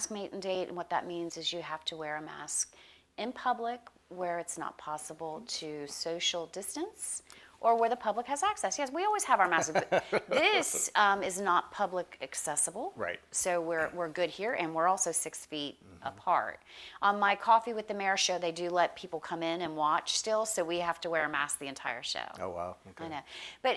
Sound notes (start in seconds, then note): 9.4 laughs